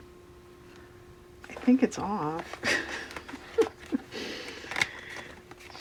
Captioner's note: laughs